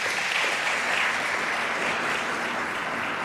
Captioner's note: applause